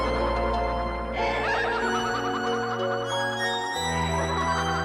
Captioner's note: Lavinia laughing